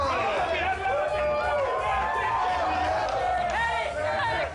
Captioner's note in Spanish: Gritos y exclamaciones